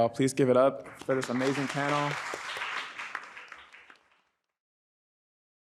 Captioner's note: audience applauds